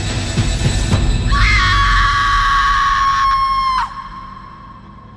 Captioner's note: girl screaming